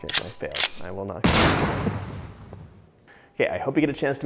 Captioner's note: gun booming